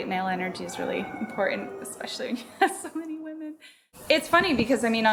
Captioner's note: laughs